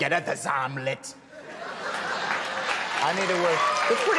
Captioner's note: audience laughing